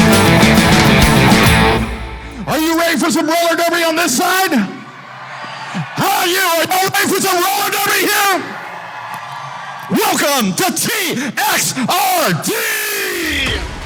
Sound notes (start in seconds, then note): 4.9 crowd cheering; 8.6 crowd cheering